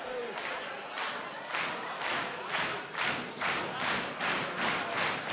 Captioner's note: crowd claps rhythmically